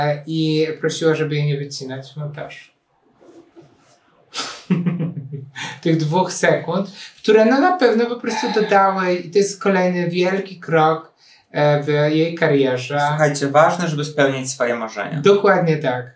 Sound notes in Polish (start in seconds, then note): 4.6 śmiech